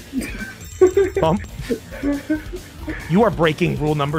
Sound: erarg laughs

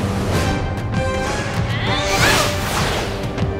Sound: grunting

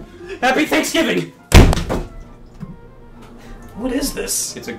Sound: chicken thuds on wall

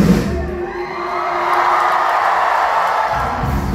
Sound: cheering

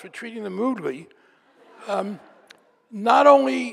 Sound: audience laughing

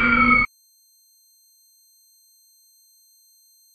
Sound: beep; screams loudly

